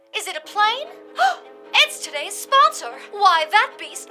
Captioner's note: gasp